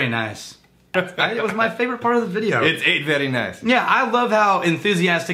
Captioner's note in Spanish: Con vos de Pewds